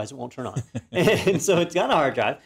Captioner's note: laugh